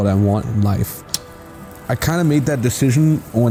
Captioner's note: projector whirring; projector clicking